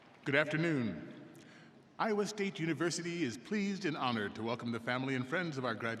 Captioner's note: applause